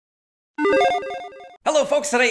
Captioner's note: logo beeps